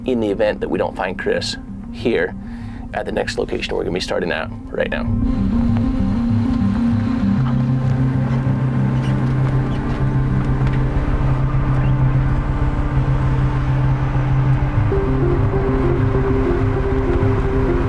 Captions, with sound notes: in the event that we don't find Chris here at the next location we're gonna be starting at right now. (suspenseful music begins) (RV engine rumbling)